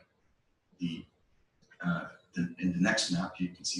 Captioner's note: pause